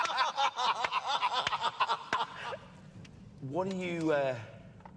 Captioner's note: laughter